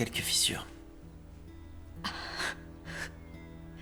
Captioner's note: chuckles